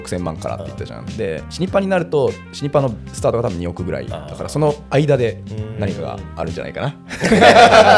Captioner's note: laughs